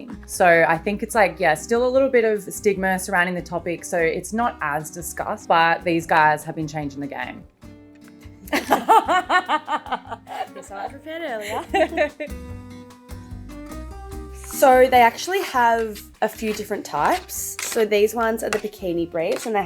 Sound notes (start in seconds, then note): 8.5 chuckling; 12.9 lively music